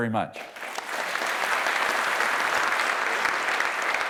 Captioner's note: applause